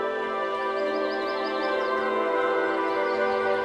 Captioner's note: birds chirping